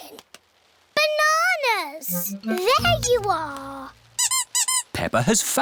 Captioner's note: squeaking